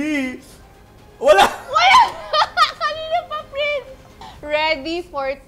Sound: laughs

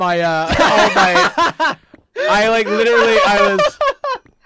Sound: laughs

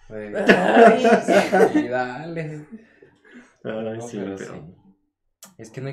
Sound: teasing & laughing

